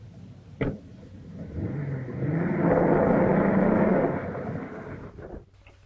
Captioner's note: engine rumbling